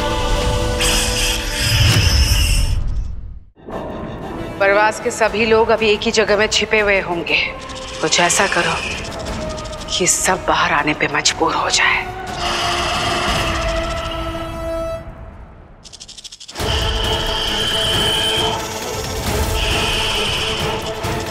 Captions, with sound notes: [hissing] All the people of Parwaz must be hiding in one place. Do something, that forces all of them to come outside. [hissing] [eerie music playing]